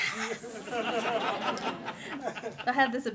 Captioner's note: laughter